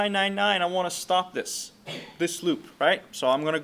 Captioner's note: sneezing